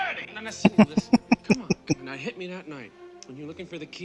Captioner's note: laughing